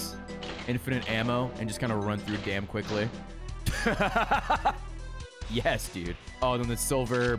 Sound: laughs

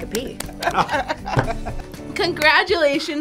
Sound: both laugh

